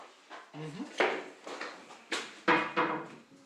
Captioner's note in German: Klappern im Hintergrund